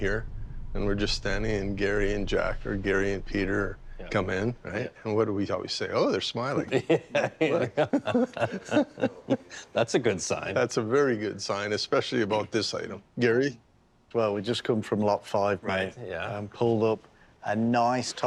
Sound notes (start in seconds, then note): 6.5 laughing; 6.6 laughter